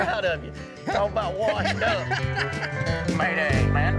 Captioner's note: laughing